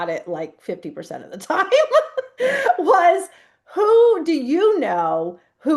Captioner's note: laughs